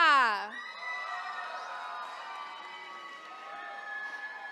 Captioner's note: attendees cheering